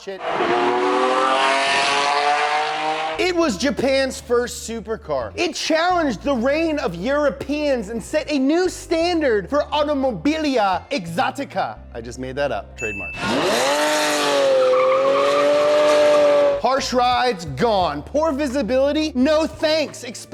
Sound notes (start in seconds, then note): 0.0 engine revving; 13.2 engines revving and tires skidding